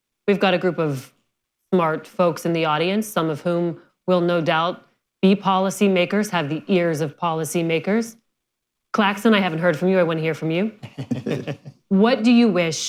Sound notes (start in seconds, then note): 10.8 laughter